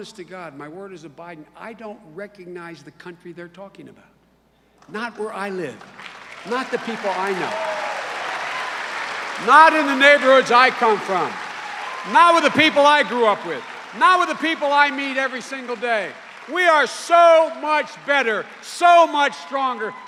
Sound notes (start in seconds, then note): 6.5 cheers and applause